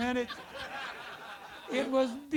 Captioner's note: audience laughter